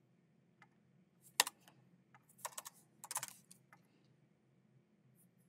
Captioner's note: keyboard clacking